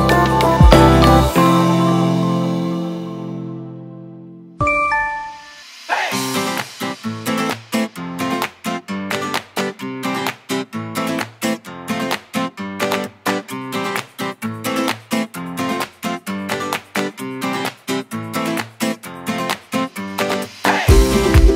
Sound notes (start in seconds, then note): 4.6 incoming Line message